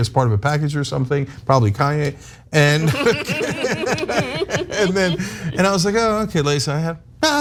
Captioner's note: laugh